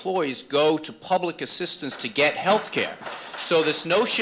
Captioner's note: applause